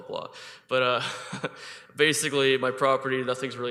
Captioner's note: chuckles